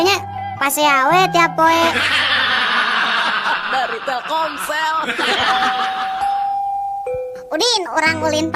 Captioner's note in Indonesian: tertawa